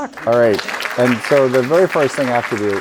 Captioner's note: audience applauding